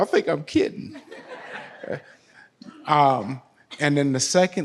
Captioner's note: audience laughs